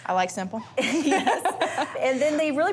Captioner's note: laughing